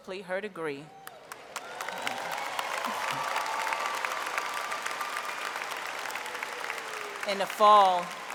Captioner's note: applause